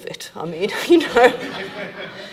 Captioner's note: laughing; audience laughing